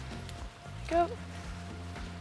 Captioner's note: mutters